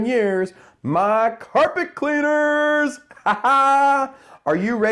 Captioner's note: laughs